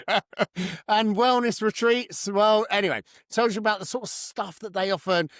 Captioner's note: laughs